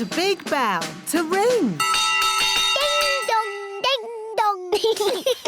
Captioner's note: bell rings; laughter